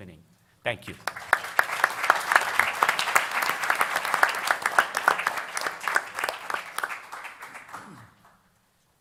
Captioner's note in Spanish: Aplausos